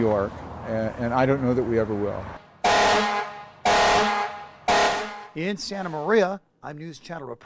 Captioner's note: horn blasting